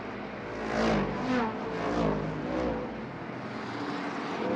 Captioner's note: engines roaring